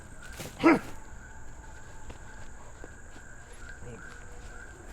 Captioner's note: Dogmouth grunts